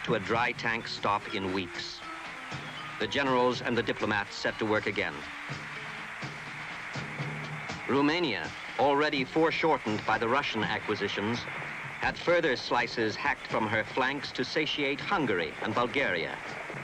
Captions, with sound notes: to a dry-tank stop in weeks. The generals and the diplomats set to work again. (crowd cheering) Romania, already foreshortened by the Russian acquisitions, had further slices hacked from her flanks to satiate Hungary and Bulgaria.